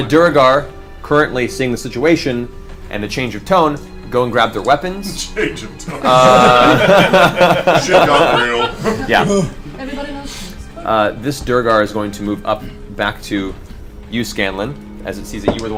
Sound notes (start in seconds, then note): 5.8 all laugh